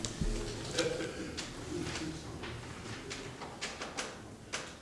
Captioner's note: background talking